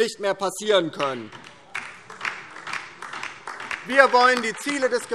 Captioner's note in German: Beifall DIE LINKE